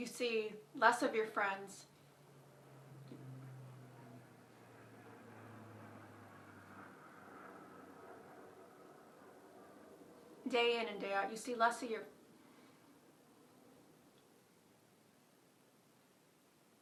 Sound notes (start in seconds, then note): 1.8 plane flying overhead; 12.0 plane still flying